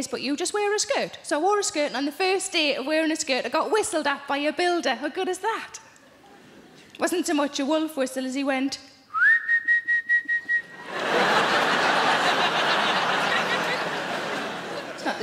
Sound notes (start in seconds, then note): 9.1 Sarah gently whistles; 10.6 audience laughing